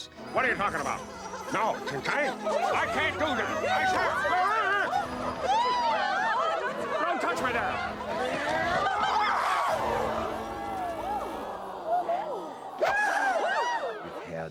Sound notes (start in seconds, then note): 4.5 all chattering; 8.8 crowd exclaiming; 10.7 all gasping; 12.7 gasps